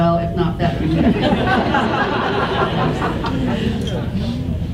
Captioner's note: audience laughs